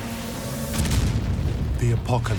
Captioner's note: explosion